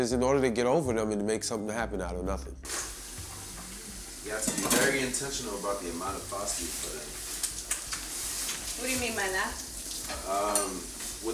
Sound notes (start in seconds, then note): 3.4 water running; 4.4 knife clangs